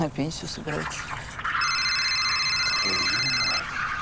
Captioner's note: phone rings